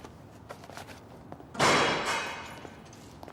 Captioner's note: hatch clangs shut